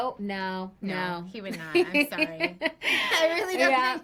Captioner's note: both laugh